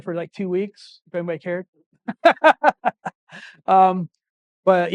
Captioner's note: laughing